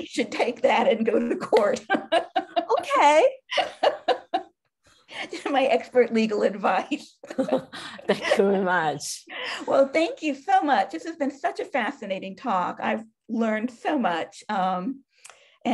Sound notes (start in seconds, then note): 1.5 laughing; 7.3 both chuckling